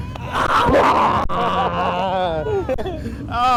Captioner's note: exclaiming